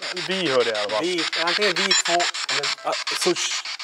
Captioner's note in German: Metallisches Geräusch